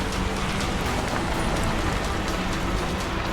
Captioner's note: gravel crunching; brakes squeaking